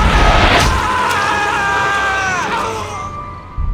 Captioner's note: Alex screaming; tense music; knife slashing